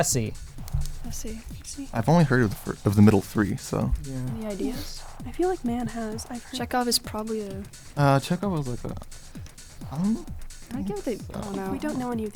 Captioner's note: wispering